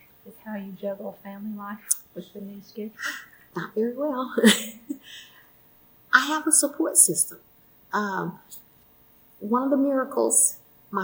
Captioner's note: laughs